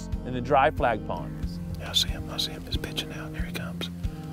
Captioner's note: whispering